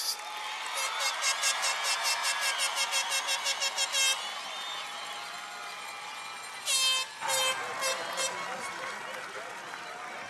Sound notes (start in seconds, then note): 0.0 cheers and applause; 0.8 horn blaring